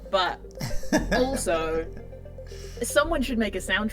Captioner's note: chuckles